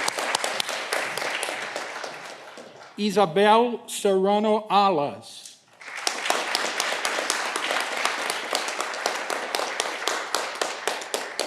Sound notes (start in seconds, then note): 5.7 audience clapping